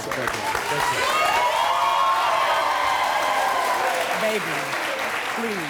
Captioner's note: audience applauding